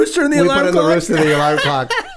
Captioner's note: laughs